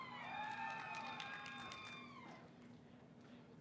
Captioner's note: cheering